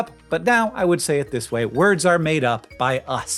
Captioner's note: none